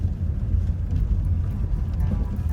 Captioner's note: car sounds